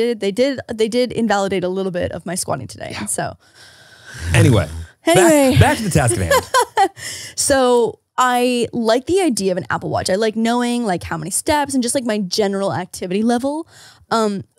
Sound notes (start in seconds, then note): 5.1 laughs